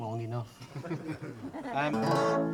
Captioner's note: audience laughter